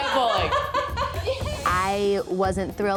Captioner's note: laughs